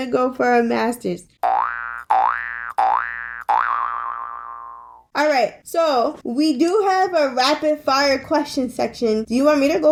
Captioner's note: cartoon Boing Sound Effect